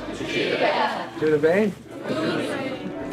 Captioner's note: group speaking in foreign language; speaking in foreign language; group speaking in foreign language